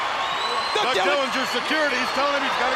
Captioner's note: crowd chattering